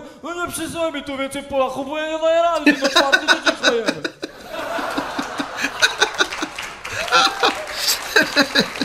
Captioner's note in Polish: śmiech